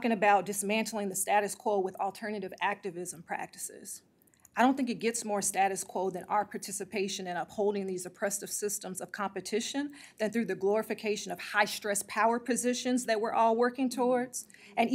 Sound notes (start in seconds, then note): none